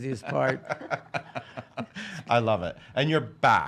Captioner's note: laughs